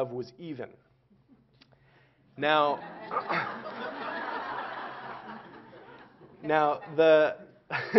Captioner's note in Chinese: Laughter; 笑聲